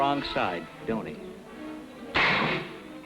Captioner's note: gun firing